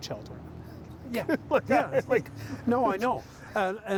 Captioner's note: chuckling